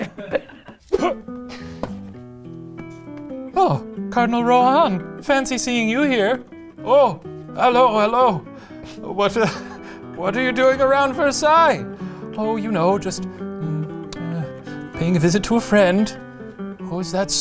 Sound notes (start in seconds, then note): 0.0 laughs; 9.4 laughs